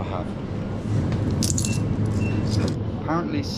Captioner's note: coins rattle